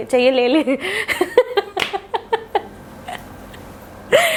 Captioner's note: evil laugh